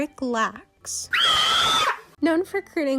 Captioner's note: ahhhh